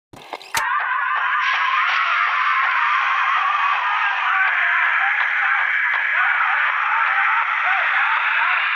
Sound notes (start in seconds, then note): 0.8 distorted voices yell